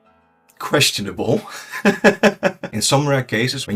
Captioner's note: laughs